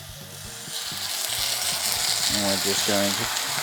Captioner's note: sizzling sound